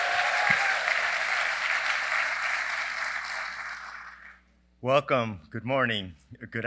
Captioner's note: applause